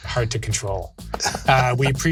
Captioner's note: laughs